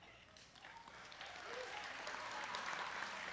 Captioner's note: applause